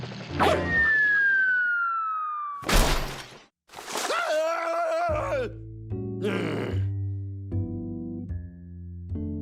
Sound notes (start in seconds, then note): 0.6 whistling; 6.2 groans